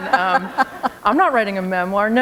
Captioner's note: laughter